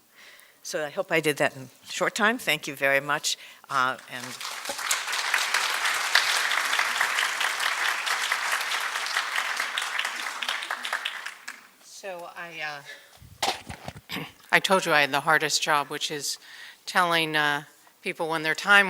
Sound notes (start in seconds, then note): 3.7 applause